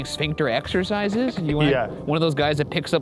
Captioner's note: chuckles